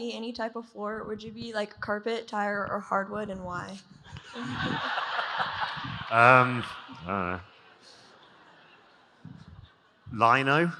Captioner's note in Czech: Smích